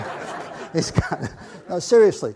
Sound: laughing; audience laughs

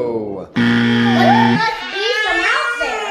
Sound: buzzer

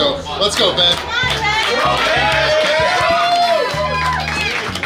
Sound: crowd cheering

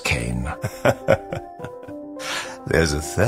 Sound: laughing softly

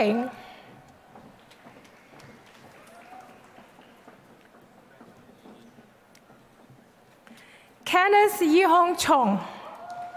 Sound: applause; applause

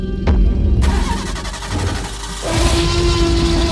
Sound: stomping and Engine Start Sounds; T-Rex Roars

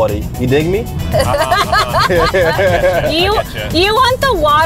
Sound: everyone laughing

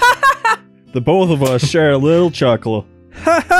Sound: cackles; chuckles

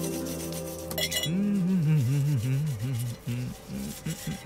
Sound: humming

